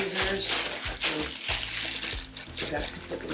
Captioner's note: bag rustling